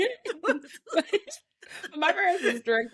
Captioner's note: laughing